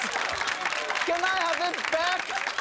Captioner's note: audience clapping